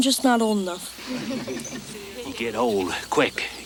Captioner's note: congregation chuckles